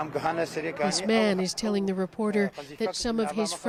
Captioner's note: speaking foreign language